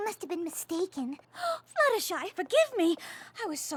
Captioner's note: gasps